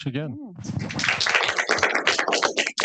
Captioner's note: audience applauding